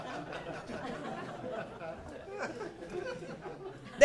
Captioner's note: laughing